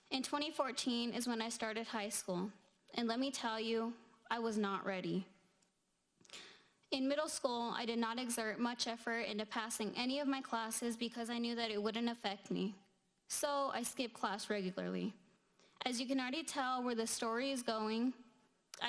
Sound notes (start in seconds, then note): none